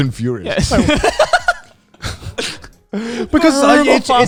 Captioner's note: laughs